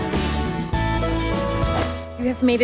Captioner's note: screen whooshes